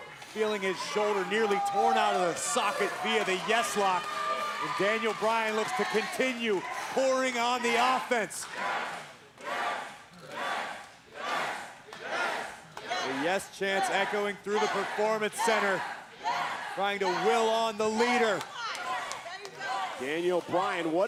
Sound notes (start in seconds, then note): 9.1 applause